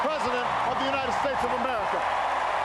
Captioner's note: cheers, applause